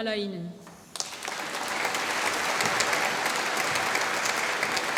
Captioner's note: applause